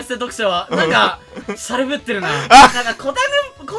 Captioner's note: laugh